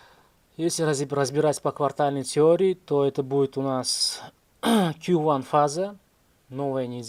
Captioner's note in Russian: откашливается